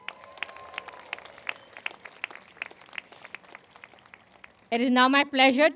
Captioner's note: cheers and applause